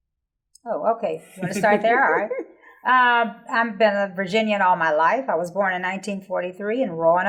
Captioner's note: laughing